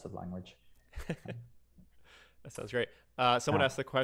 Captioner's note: chuckling